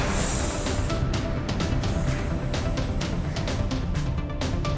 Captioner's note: bubbles